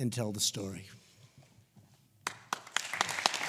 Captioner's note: applause